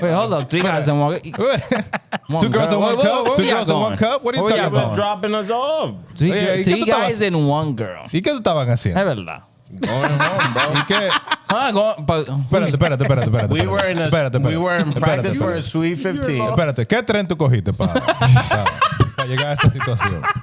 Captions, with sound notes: Hold up, three guys and one girl. Two girls and one cup? Two girls and one cup? What are you talking about? We're dropping us off. Three guys and one girl. (Speaking In Foreign Language) (Laughing) We were in practice for a sweet 15. (Speaking In Foreign Language) (Laughing) What?